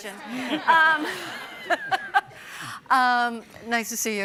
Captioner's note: audience and panel laughing